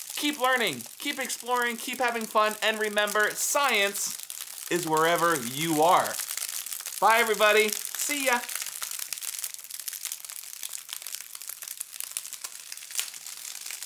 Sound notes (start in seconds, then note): 9.2 crackling